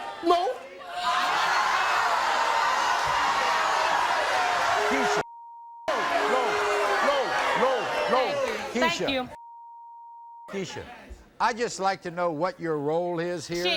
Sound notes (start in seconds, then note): 0.0 crowd shouting; 5.3 beep; 9.1 beep